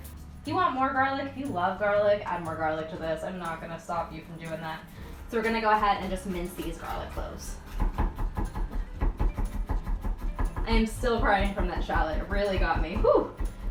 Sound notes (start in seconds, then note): 8.0 chopping garlic